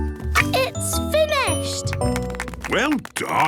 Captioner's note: applause